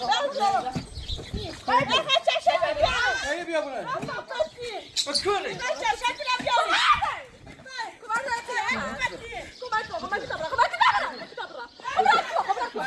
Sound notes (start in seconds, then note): 6.6 screaming